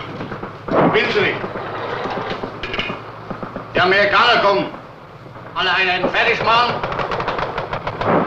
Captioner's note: foreign language